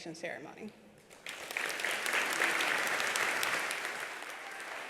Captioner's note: attendees applauding